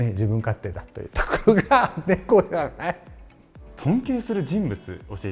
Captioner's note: laughter